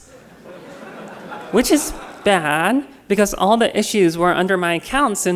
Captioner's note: laughter